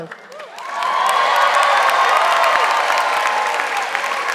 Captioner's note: audience applauding